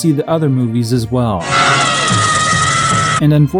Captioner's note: Aunty Entity from "Mad Max: Beyond Thunderdome" screaming